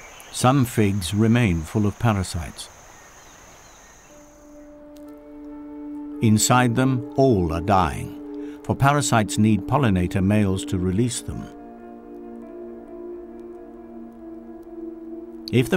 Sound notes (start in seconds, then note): 2.7 nature sounds; 11.5 sad music